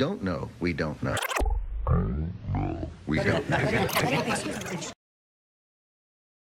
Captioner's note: rewinding and voice slowing down